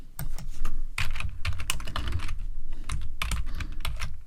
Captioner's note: keyboard clacking